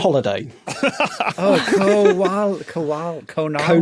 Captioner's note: laugh